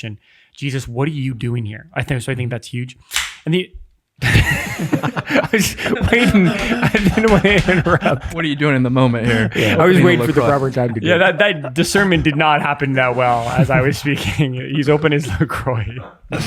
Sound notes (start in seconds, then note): 3.1 soda can popping; 5.0 Angelus laughing